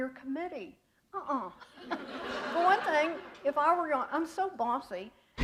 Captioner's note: laughter